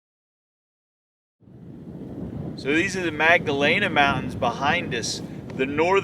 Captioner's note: wind noise; scraping on rocks